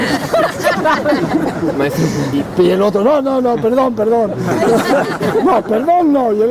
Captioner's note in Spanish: risas